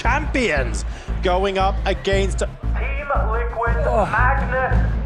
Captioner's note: groans